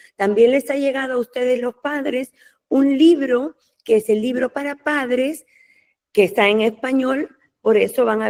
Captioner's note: in Spanish